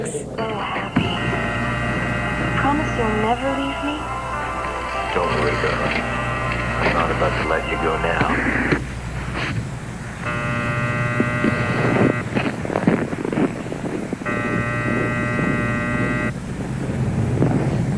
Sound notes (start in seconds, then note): 0.2 female voice on radio; 5.1 male voice on radio; 8.7 static; 10.2 electric sign buzzing; 14.2 electric sign buzzing